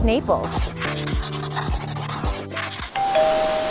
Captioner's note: pen scribbling; doorbell rings